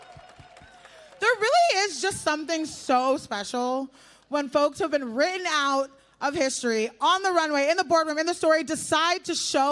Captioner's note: applause